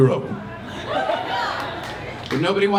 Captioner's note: crowd cheering